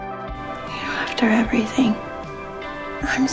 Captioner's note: voiceover